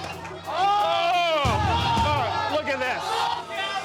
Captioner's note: crowd yells